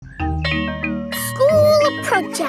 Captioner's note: school bell rings